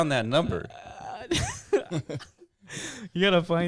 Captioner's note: laughs